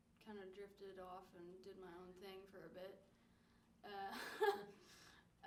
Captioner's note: laughs